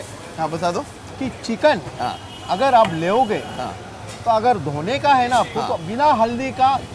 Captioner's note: speaking in foreign language